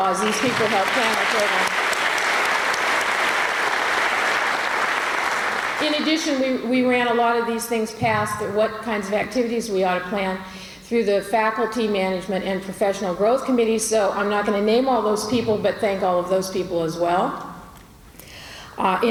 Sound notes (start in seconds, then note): 2.5 applause